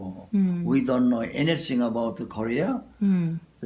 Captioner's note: speaking English